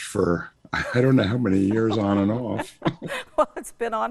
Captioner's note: laughs